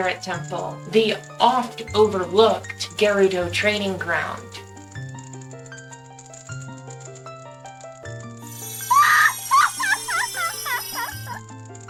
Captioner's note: laughing